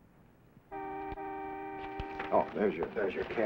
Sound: car horn honking

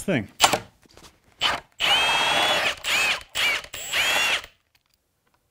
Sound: drill whirring

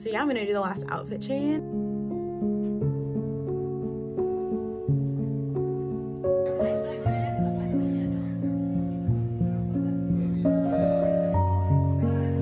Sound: chatting in the bar

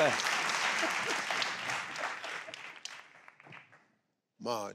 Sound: audience clapping

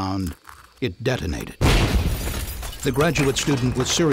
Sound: sound of explosion

